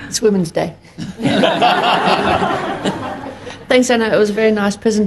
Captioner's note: audience laughs